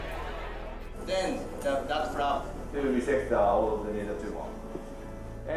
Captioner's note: indistinct chatter